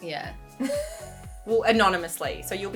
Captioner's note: laughing